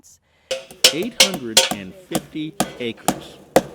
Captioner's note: hammer banging